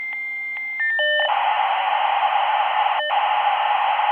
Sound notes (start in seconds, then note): 0.8 beeping and static